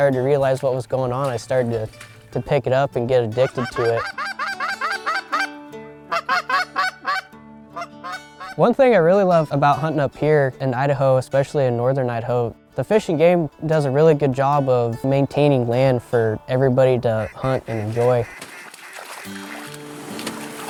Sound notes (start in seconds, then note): 3.4 goose call